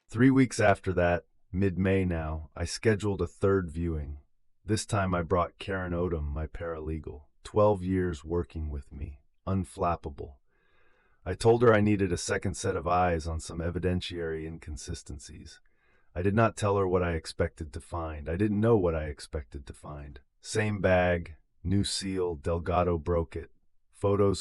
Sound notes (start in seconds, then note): 7.1 inhale